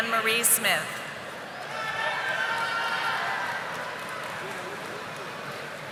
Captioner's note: audience applauding